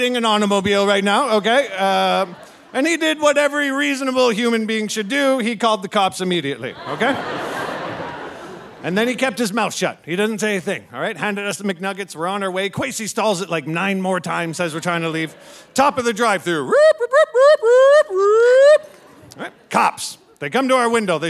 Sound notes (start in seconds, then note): 6.5 audience laughing; 16.7 imitating sirens wailing